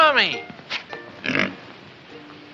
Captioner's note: pig grunts